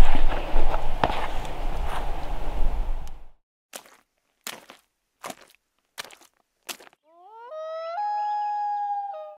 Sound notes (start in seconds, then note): 4.3 footsteps; 7.2 wolf howls